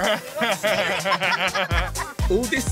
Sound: laughter

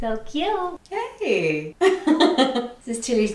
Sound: giggling

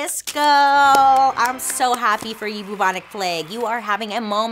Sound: hand claps

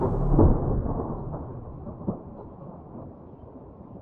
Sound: thunder rumbling

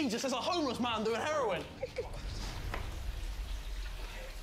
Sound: running water

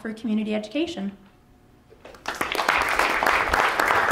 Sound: applause

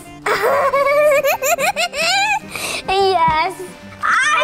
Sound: laughter

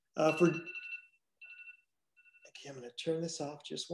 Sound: phone rings

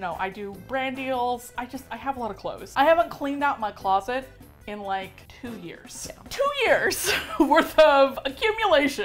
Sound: laughs

